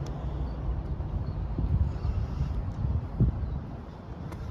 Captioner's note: wind blowing